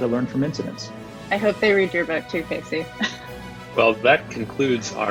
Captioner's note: chuckles